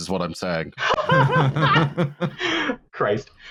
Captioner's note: laughter